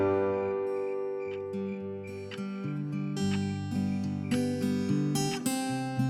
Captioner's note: clock continues ticking